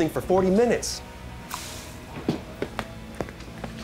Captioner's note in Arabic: هسهسة السجائر